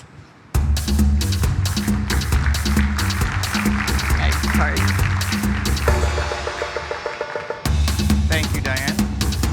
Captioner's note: applause